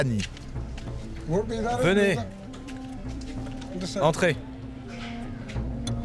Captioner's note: Ghani speaking foreign language